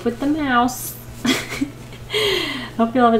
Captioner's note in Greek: Γέλια